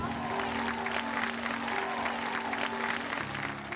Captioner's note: clapping